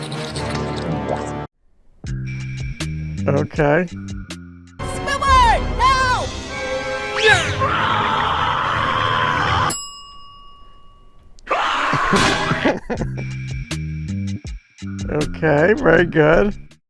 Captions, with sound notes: Okay Squidward, no! (intense screaming) Okay, very good